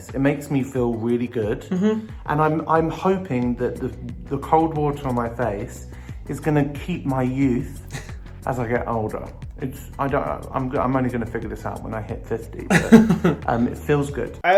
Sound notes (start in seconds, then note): 7.9 laughs; 12.7 chuckles